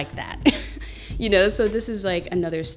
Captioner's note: laughs